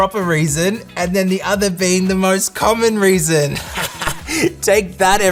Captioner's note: laughs